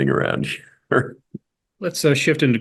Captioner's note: laugh